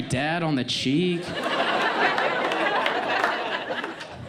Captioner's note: audience laughs